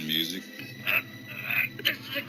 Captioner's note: choking